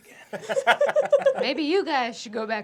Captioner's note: laughter